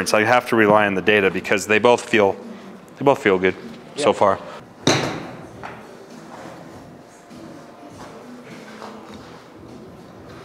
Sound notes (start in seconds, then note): 4.8 ball thuds